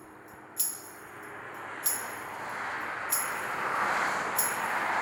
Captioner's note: cars swooshing